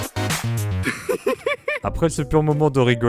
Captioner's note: laughs